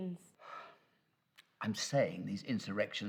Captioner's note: professor sighs